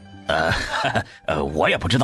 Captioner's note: hesitant chuckle